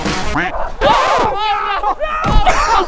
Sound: record scratch; laughter

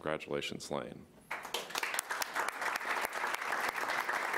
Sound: applause

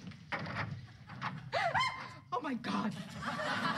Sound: scream

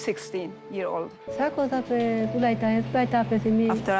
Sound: speaking foreign language

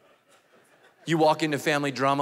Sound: congregation laughing

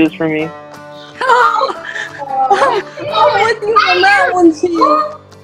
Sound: laughter

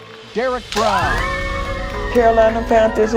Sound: cheering

